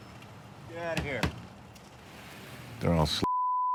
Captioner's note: hand thudding